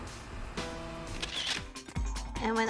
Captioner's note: camera shutter clicks